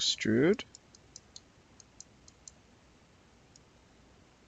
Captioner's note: mouse clicking